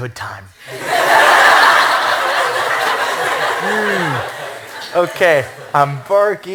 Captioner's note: laughter